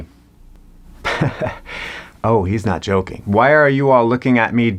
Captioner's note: laughs